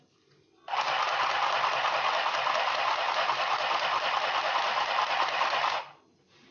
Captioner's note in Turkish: Makina sesi